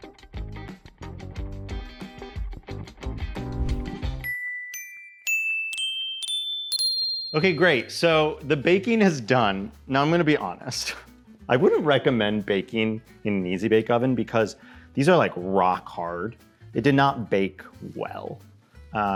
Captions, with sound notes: (bells dinging) Okay, great. So the baking is done. Now I'm gonna be honest. I wouldn't recommend baking in an Easy-Bake Oven because these are like rock hard. It did not bake well.